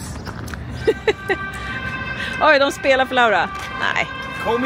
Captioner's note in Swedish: Sirener i bakgrunden